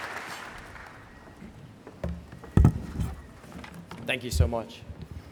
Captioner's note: applause